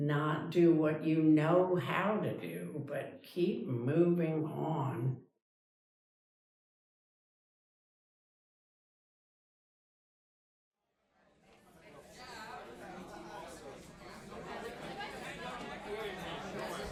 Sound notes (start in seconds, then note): 7.5 silence; 11.2 cafeteria chatter